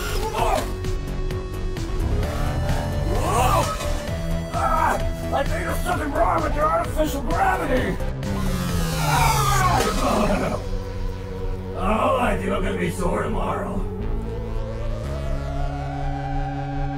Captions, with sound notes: (Max groans in pain) (buzzing ascending) Whoa! Ah! I think there's something wrong with the artificial gravity. (buzzing descending) (Max groans) Oh, I'm think I'm gonna be sore tomorrow.